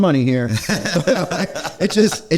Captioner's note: laughing